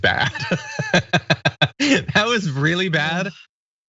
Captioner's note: laugh